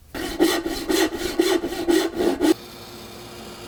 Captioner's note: quick sawing; high-speed saw whirring